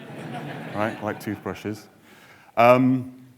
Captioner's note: audience laughing